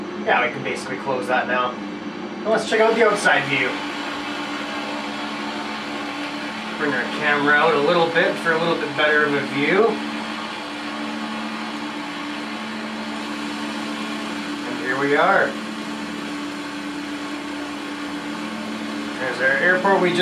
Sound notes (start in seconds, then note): 10.9 engine sounds